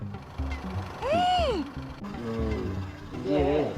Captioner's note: gasps